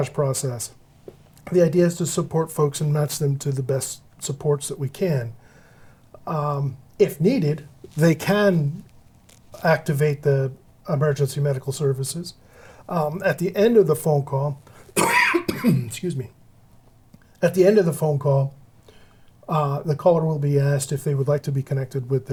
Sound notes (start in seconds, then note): 14.9 cough